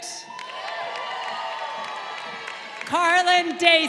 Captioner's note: crowd cheering